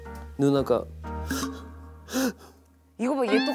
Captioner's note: bursting into tears